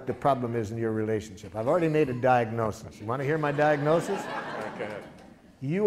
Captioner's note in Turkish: Gülüşmeler